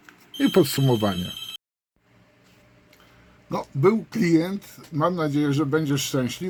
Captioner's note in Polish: dzwonek!